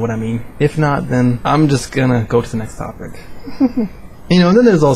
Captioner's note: chuckle